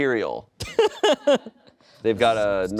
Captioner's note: laughs